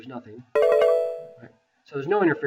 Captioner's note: computer chimes